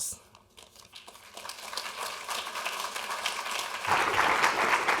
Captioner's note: audience applauds